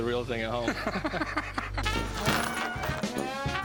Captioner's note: laughter